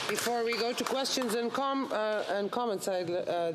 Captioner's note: applause